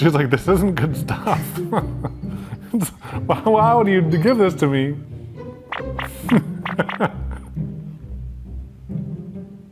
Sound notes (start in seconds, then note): 2.6 laughs; 5.7 video game booping; 6.2 laughs